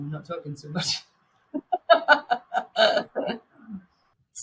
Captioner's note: laughing